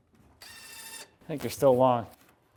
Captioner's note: drilling sounds